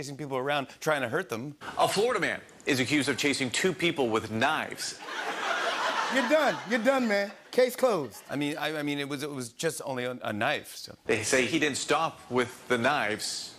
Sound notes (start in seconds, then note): 5.0 laughter